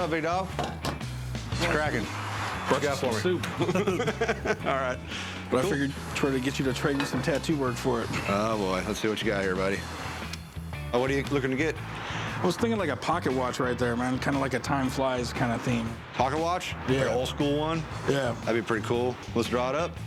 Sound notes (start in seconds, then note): 3.4 laughter